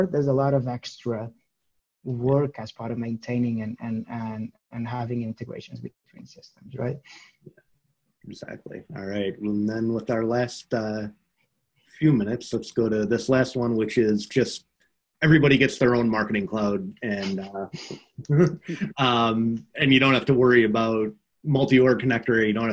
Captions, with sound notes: There's a lot of extra work, as part of maintaining, and having Integrations between systems, right? - Exactly, all right. Well then with our last few minutes, let's go to this last one which is just, everybody gets their own Marketing Cloud (laughs) and you don't have to worry about Multi-Org Connector.